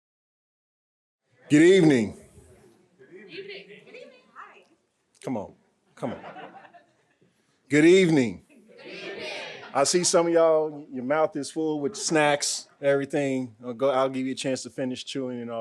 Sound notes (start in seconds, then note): 6.0 audience laughing